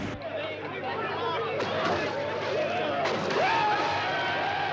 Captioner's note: crowd chattering